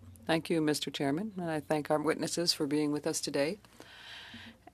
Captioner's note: speaking French